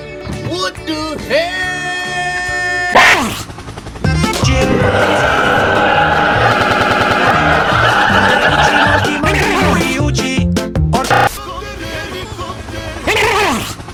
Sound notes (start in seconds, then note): 11.0 both helicopter helicopter meme sounds